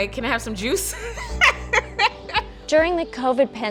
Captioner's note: laughs